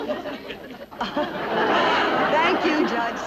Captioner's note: audience laughing